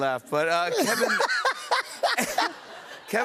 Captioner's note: laughter